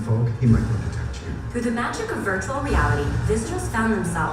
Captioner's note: voiceover